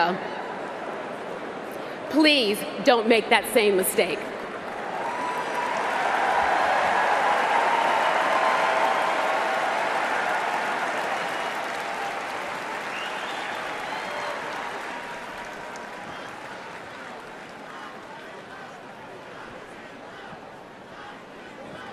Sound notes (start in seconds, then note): 12.5 cheers and Applause